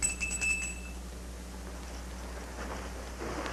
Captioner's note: bell rings